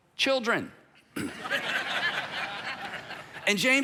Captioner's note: audience laughing